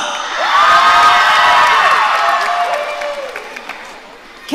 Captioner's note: audience cheering